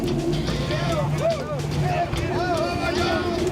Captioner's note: cheering